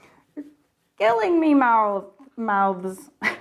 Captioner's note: laughs